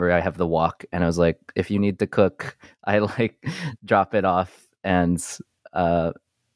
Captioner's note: chuckles